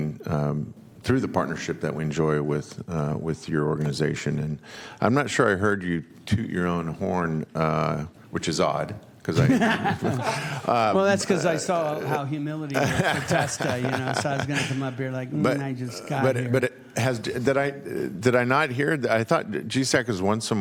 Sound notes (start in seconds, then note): 12.7 laughter